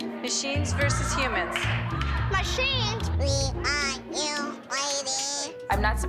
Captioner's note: robotic voice